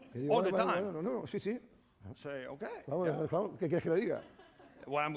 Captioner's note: speaking spanish